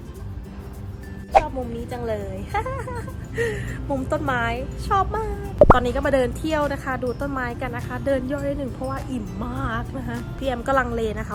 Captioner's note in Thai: หัวเราะ